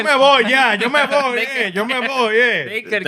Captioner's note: speaking Spanish